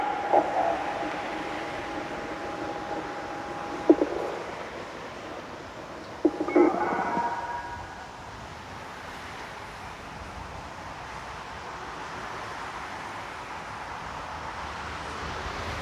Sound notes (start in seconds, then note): 6.6 telephone noise